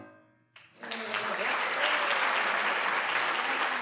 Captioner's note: applause